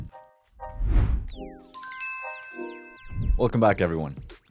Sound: logo whooshing and chiming

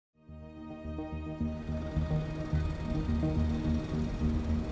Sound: city sounds

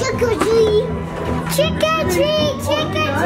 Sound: knocks

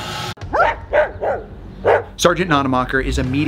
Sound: dog barks

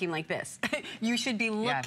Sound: laughter

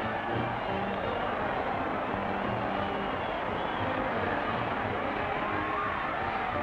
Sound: crowd cheers; lively music

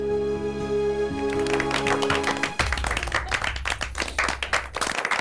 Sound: applauding

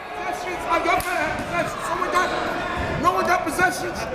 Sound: coaches yelling

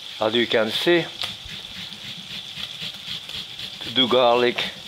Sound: garlic grating

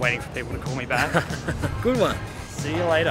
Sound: laughs

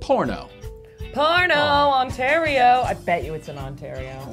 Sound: singsong voice

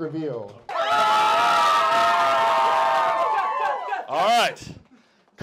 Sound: cheering

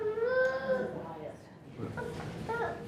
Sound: person speaking off mic

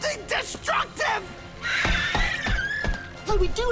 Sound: screeching

